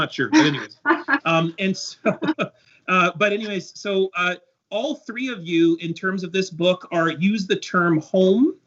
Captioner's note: laughter